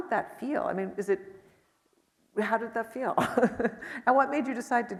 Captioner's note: chuckles